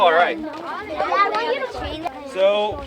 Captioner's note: children chattering